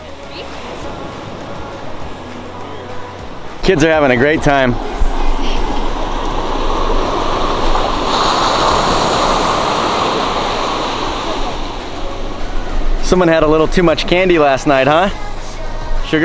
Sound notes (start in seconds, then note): 6.1 waves crashing on rocks